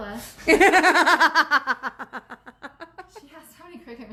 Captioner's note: laughs